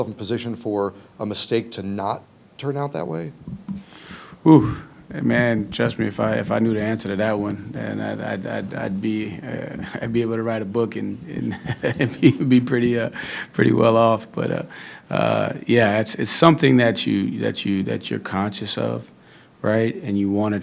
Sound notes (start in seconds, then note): 11.8 laughs